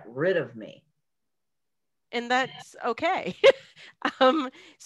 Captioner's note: laugh